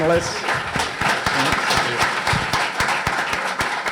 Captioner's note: audience applauds